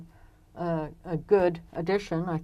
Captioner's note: speaking French